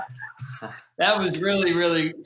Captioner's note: laughs